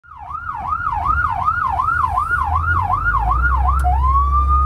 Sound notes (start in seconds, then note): 0.0 siren blaring